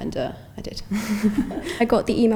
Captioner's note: chuckles